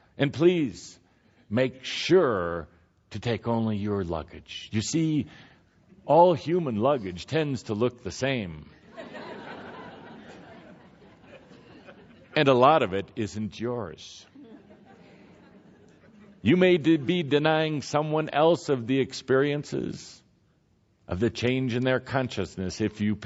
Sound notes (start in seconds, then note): 8.8 laughter